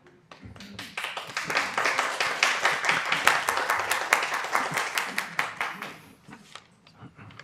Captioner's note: applause